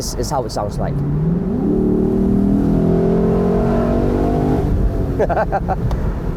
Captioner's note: vroom vroom